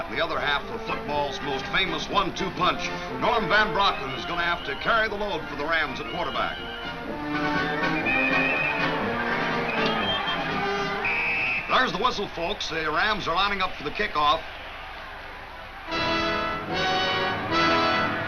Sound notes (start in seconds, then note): 10.5 whistle blows